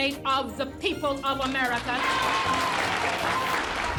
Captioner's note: applause and cheers